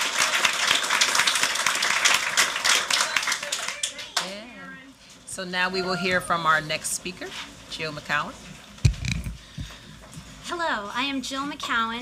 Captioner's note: applause